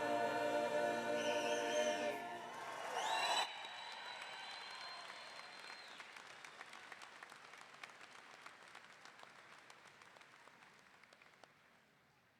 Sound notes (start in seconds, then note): 2.9 audience applauding; 2.9 audience cheering